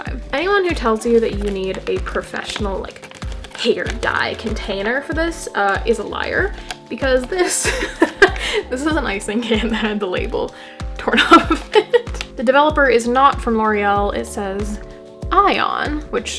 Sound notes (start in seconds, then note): 7.6 laugh; 10.4 laughing